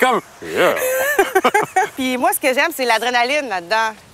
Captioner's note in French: rire; rires